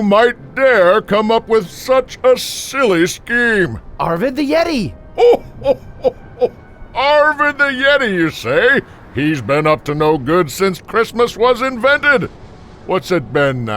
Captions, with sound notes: - Arvid the yeti. - (chuckles) Arvid the yeti, you say. He's been up to no good since Christmas was invented. What's it been now? Ur...